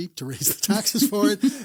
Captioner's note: laughs